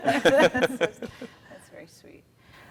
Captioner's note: giggle